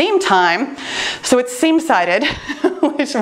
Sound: laughs

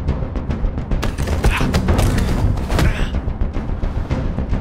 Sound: groaning

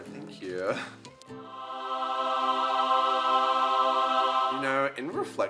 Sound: angelic sound

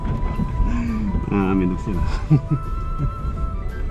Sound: laughs

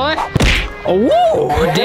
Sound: thud

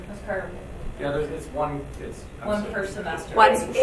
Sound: people chattering

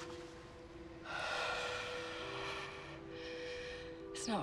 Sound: exhales

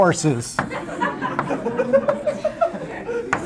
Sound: laughter

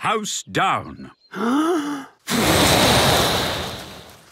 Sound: inhaling deeply; blowing

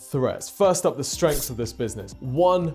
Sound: sword scrapes

